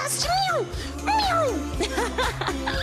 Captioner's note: laughter